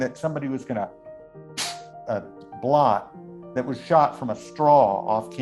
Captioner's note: makes a blowing sound